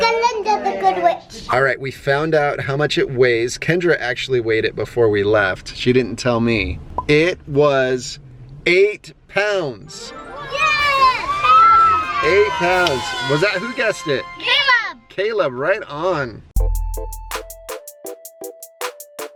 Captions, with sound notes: Glinda, the Good Witch! - Alright, we found out how much it weighs. Kendra actually weighed it before we left. She didn't tell me. It was, eight pounds! - Yes! (cheering) - Eight pounds. Who guessed it? - Me! - Caleb! - Caleb, right on. (hip-hop music)